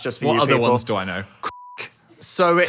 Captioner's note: beep